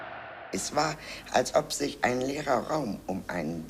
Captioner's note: in German